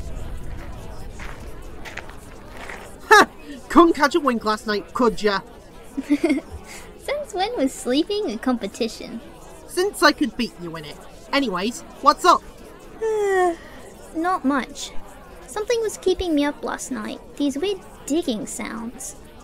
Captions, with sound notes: Ha! Couldn't catch a wink last night, could ya? [chuckles] Since when was sleeping a competiton? Since I could beat you in it. Anyway, what's up? [yawn] Not much. Something was keeping me up last night. These weird digging sounds...